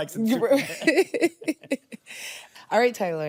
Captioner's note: all chuckle